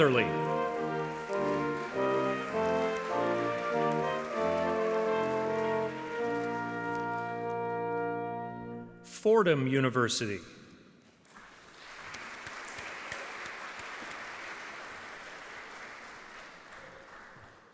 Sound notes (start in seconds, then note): 3.9 audience clapping; 14.4 audience clapping